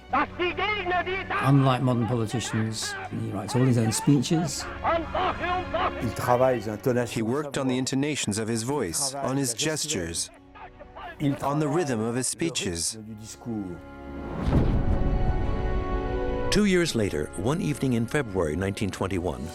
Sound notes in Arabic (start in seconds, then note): 0.1 الصوت المنطوق باللغة الألمانية; 4.9 الصوت المنطوق باللغة الألمانية